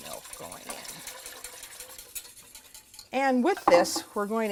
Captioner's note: whisking